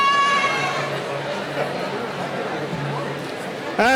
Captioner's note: cheering